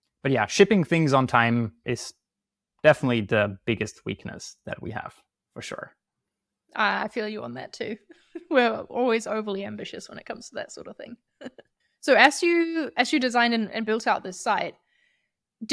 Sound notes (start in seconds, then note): 11.6 chuckles